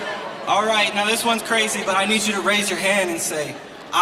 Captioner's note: crowd